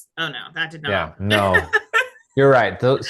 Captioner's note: laughing